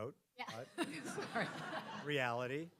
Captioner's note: audience laughing